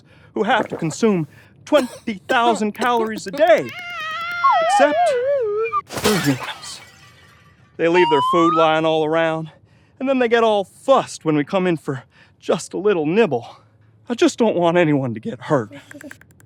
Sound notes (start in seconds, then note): 3.6 Panics in Derp-lish